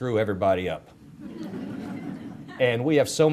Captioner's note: audience laughter